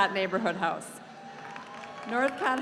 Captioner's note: audience cheering